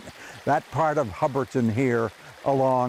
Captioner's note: water burbling